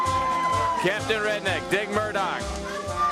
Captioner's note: crowd cheering